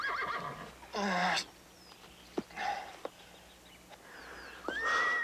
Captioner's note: Tater moaning